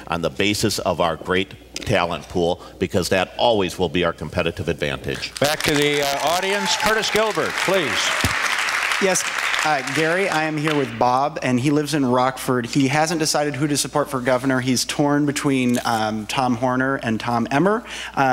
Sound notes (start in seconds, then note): 5.5 cheers, audience